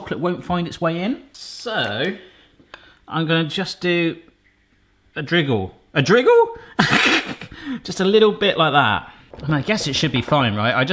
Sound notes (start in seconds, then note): 6.8 laughs